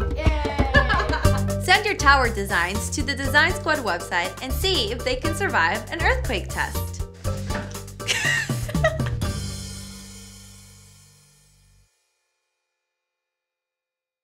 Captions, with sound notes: Yay! Send your tower designs to the Design Squad website and see if they can survive an earthquake test. (laughing)